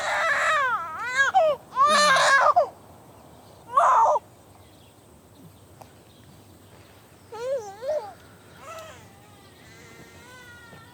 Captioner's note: baby crying